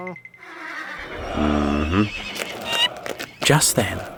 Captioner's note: Barak squeaks